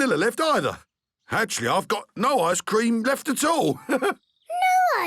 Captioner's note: chuckles